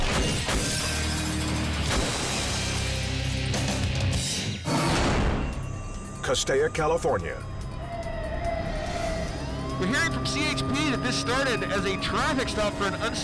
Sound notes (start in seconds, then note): 0.2 squashing sound; 9.3 siren wailing